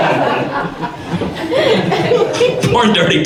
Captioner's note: audience laughs